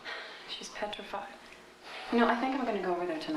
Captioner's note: sighs